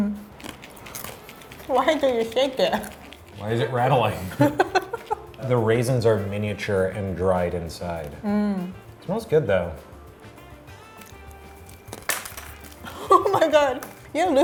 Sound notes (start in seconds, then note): 0.2 chewing; 4.1 laughing; 10.8 chewing